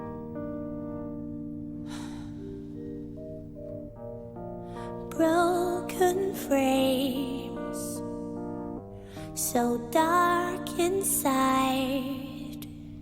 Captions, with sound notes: ( sighs ) * BROKEN FRAMES * * SO DARK INSIDE *